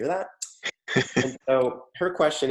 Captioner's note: chuckles